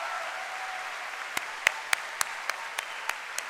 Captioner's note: cheering and applause